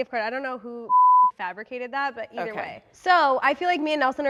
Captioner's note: beep